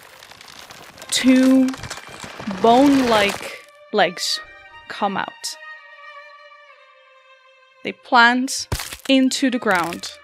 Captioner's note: sounds of bones cracking